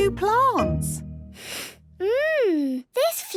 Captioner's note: sniffs